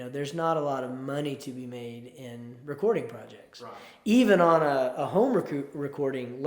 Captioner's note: none